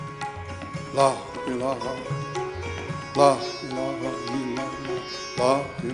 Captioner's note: chanting in a foreign language